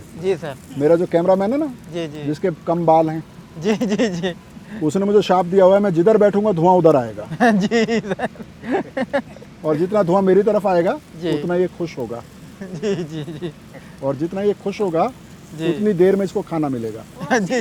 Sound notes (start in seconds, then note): 3.6 laughs